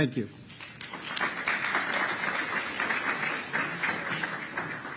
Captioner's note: applause